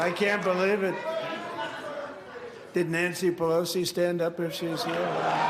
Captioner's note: applause